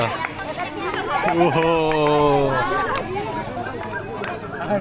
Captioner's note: celebration sounds